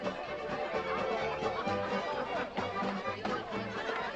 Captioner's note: crowd chattering